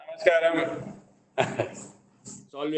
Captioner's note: laughs